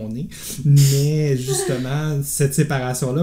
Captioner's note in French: rires